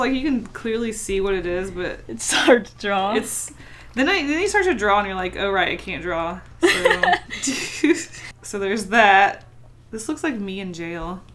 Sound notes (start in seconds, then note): 6.6 both laugh